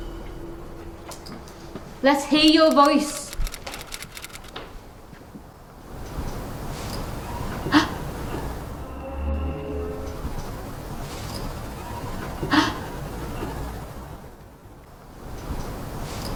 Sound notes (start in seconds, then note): 7.5 gasps; 7.9 whooshing; 9.6 groaning faintly; 12.4 gasps